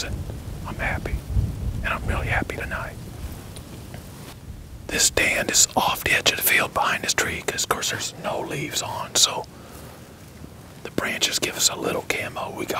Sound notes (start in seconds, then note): 4.5 whispering